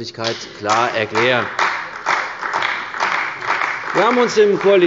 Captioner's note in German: Beifall bei der CDU